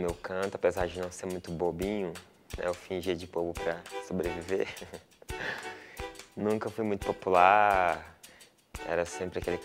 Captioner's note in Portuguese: risos